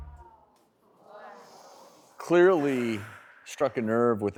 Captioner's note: audience gasping